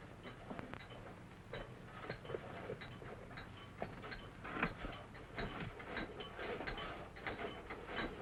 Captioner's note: clinking